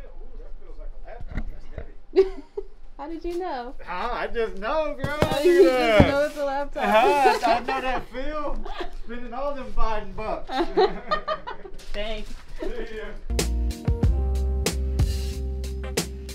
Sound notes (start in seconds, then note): 2.1 laughs; 6.8 both laugh; 6.8 laughs; 11.1 lo-fi hip hop music plays